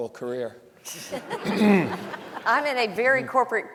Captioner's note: panelists laughing; audience laughing